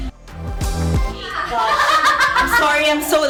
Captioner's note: laughs